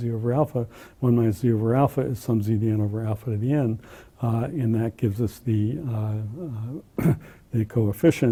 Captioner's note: cough